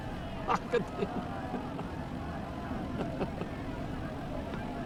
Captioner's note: laughing